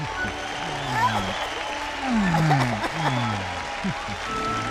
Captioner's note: crowd cheering